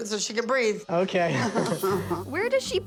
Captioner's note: Abby laughs